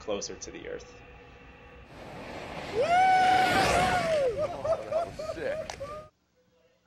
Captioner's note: skydiving audio